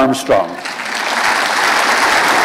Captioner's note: applause